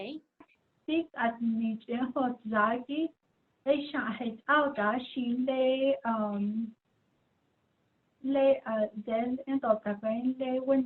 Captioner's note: speaking in Diné